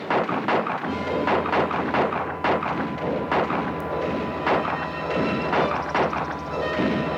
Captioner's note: guns fire; ominous orchestral music